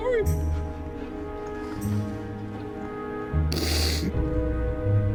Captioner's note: sobbing